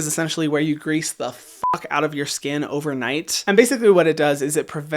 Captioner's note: beep